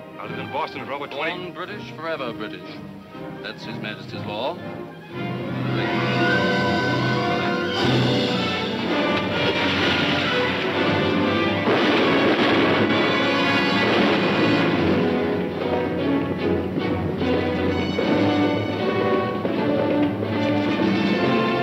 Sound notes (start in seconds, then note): 8.8 splashing; 11.7 guns firing; 18.7 horse hooves clopping